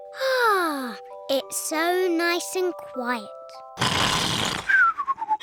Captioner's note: sighs happily; george snores loudly